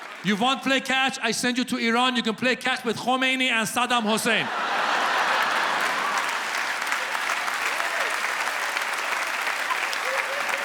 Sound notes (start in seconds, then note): 4.4 audience applauds